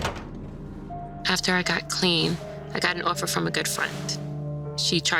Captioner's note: door squeaks open; door closes